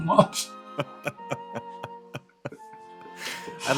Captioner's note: laughter